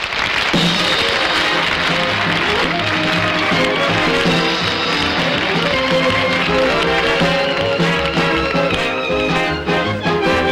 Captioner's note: audience Applauding